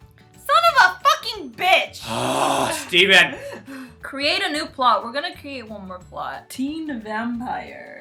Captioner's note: groans